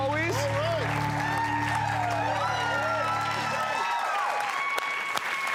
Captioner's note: audience cheers